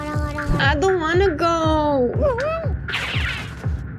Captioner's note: humm!